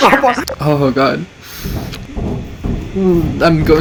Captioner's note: recovering from laughter